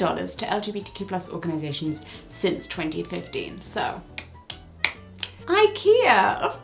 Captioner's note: claps